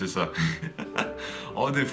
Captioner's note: laughs